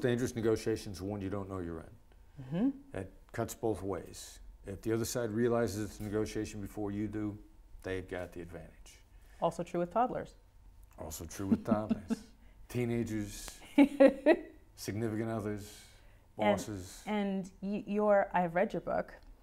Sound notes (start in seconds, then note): 11.4 laughs; 13.8 laughs